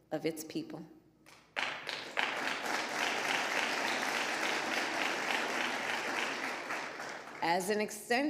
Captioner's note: applause